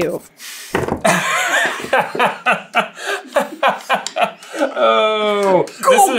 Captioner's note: laughter